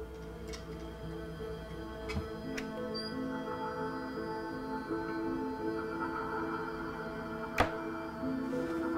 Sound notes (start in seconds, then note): 3.2 cupboard rattles; 3.2 somber music